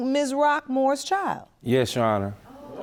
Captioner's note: audience murmuring